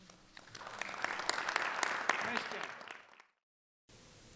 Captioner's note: audience applauding